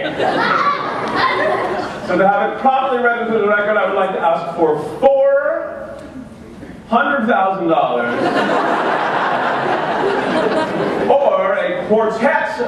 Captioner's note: laughter